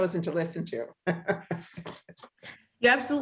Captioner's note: laughs